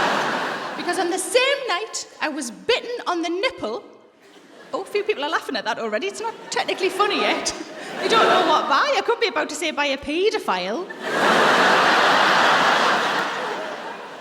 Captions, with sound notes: Because on the same night, I was bitten on the nipple... A few people are laughing at that already. It's not technically funny yet. You don't know what by. I could be about to say by a paedophile. (LAUGHTER)